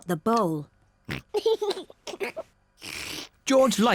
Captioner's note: snorts and giggles